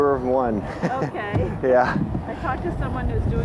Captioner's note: laughing